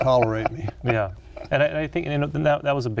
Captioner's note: laughs